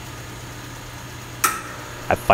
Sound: switch clicks, transformer hums

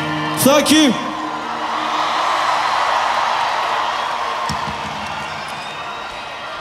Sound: audience cheering

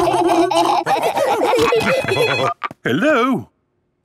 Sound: laughing; phone ringing

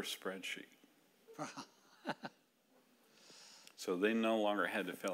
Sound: laughing

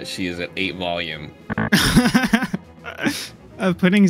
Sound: laughter

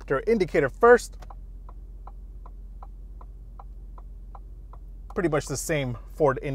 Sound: indicator ticking

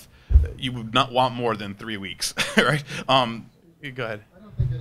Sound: laughs

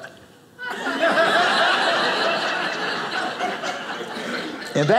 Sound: audience laughing

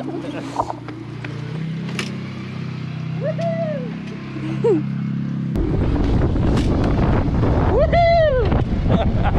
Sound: laughing

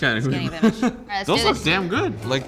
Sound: laughs

